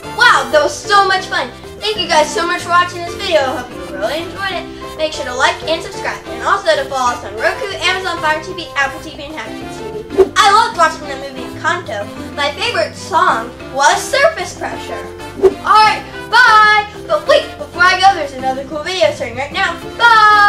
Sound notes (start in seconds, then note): none